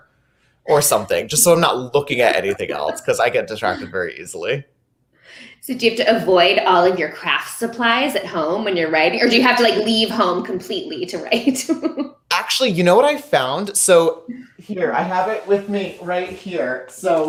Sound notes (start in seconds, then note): 2.0 laughing